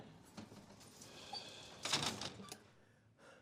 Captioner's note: sighs